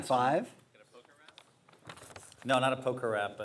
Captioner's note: voiceover